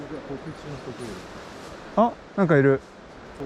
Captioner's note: animal noise in the bush